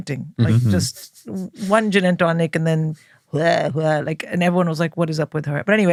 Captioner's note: vomit sound